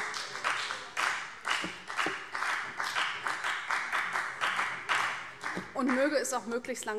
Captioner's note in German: Vereinzelter Beifall CDU und BÜNDNIS 90/DIE GRÜNEN